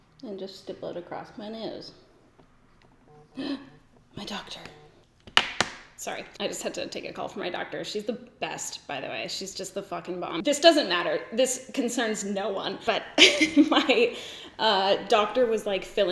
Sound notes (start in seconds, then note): 2.9 phone vibrates; 3.4 gasps; 13.1 laughs